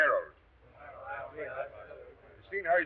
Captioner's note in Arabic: أعضاء يتمتمون